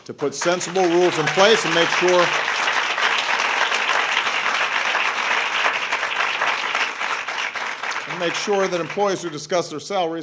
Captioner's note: applause